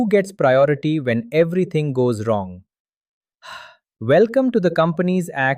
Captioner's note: sighs